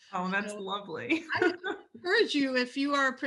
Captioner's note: laughs